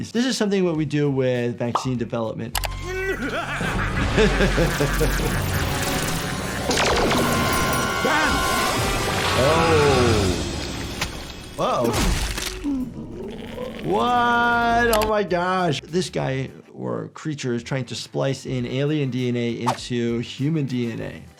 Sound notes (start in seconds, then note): 2.8 alien laughs; 2.8 laughs; 11.9 creature thuds